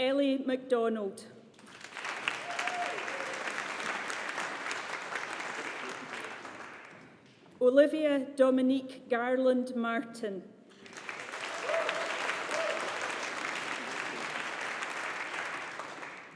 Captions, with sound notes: Ellie Macdonald. (AUDIENCE APPLAUDING) Olivia Dominique Garland Martin. (AUDIENCE APPLAUDING)